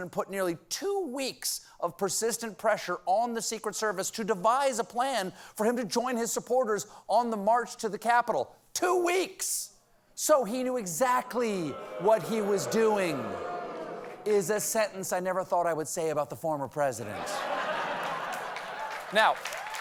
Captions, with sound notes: FORMER PRESIDENT PUT NEARLY TWO WEEKS OF PERSISTENT PRESSURE ON THE SECRET SERVICE TO DEVISE A PLAN FOR HIM TO JOIN HIS SUPPORTERS ON THE MARCH TO THE CAPITOL. TWO WEEKS. SO HE KNEW EXACTLY WHAT HE WAS DOING... ( AUDIENCE BOOING ) IS A SENTENCE I NEVER THOUGHT I WOULD SAY ABOUT THE FORMER PRESIDENT.